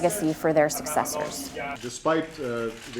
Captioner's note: camera shutters clicking